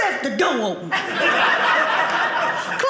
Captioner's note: audience laughing